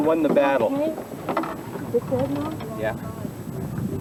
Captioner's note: water sounds